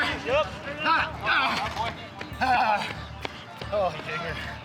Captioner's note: groaning